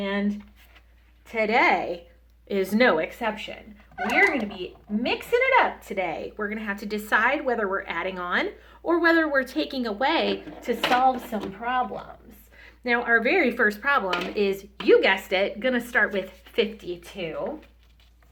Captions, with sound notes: and today is no exception. We're going to be (squeak) mixing it up today. We're going to have to decide whether we're adding on or whether we're taking away to solve some problems. Now, our very first problem is, you guessed it, going to start with 52.